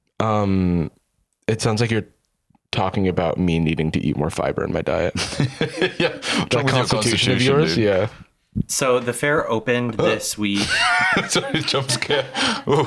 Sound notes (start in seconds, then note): 5.2 laughs